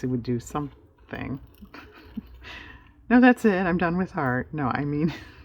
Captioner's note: laughs